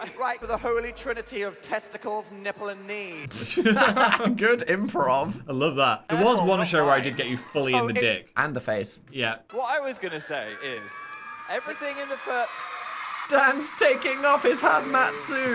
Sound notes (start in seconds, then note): 3.3 both laughing; 12.2 audience cheering